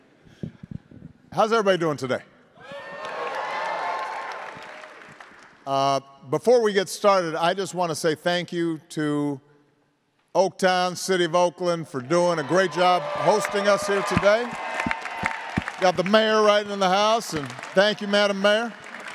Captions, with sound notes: How's everybody doing today? (attendees applauding and cheering) Before we get started, I just wanna say thank you to Oaktown, City of Oakland for doing a great job hosting us here today. Got the mayor riding in the house and thank you Madam Mayor.